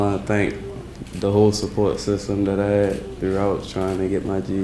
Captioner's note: people clapping